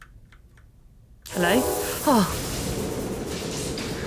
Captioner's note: loud horn noise